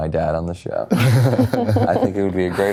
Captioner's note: cast snickering